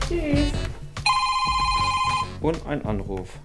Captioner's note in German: Handy klingelt